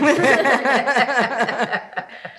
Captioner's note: laughing